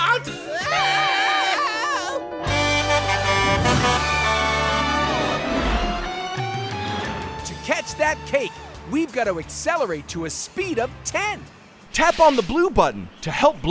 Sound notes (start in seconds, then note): 0.4 screaming; 2.4 horn honking